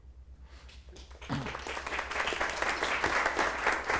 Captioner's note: applause